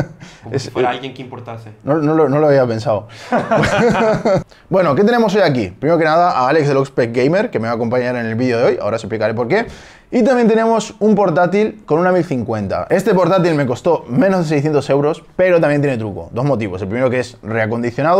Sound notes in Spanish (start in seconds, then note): 3.2 risas